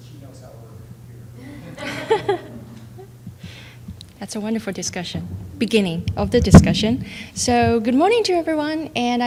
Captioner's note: laughs